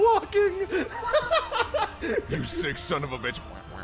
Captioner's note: more Laughter